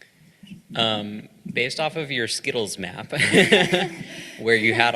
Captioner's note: laughing